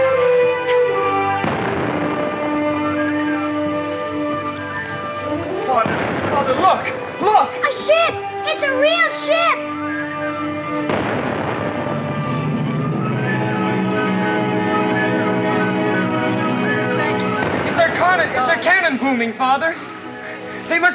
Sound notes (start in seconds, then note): 10.6 cannon booms; 13.6 bright, dramatic music